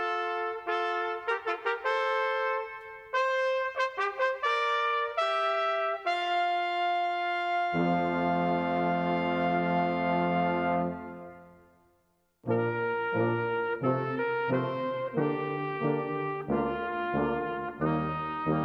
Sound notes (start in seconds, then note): 4.5 horns